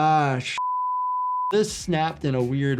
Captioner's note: beeps